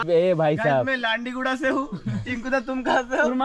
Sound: roasting him again in hindi

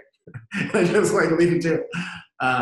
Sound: laughs

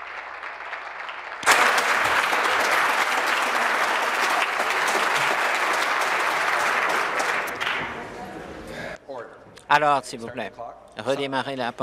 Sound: applause

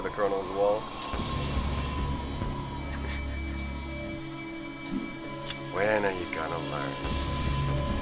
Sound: laughs

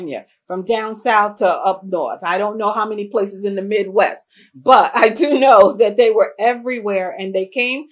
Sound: laughs

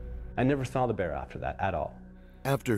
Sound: voiceover

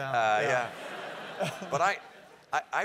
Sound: laugh

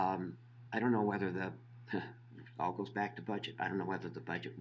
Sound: laughing

